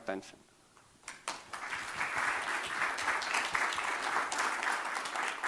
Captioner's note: audience applauding